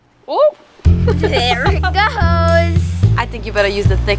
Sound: giggling

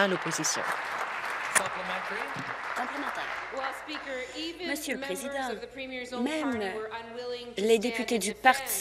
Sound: applause

